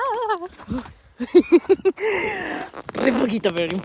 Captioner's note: evil laugh num. 1